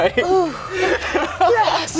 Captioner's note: laughs